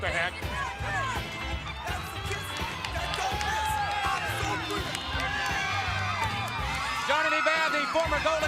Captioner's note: crowd cheering